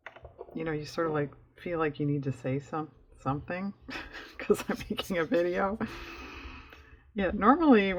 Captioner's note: laughs